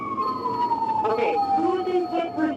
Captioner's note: police Sirens